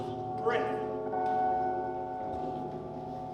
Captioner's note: bells fade